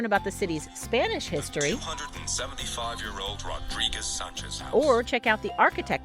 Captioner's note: app Voice